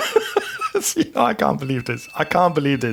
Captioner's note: laughing